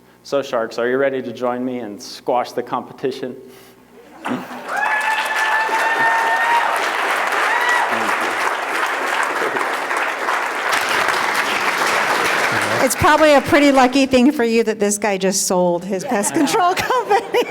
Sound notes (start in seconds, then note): 3.9 laughter; 6.3 applause